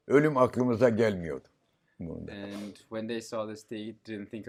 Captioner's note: foreign language